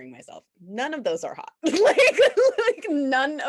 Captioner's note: laughs